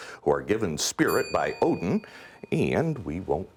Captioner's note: ding